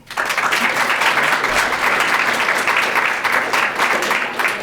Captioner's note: audience applauding